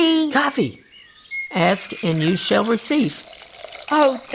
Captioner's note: liquid pouring